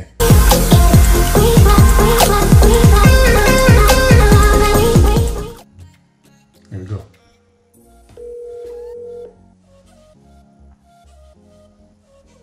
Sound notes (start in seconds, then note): 0.0 upbeat music; 8.2 phone ringing